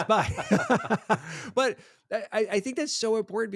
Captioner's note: both laughing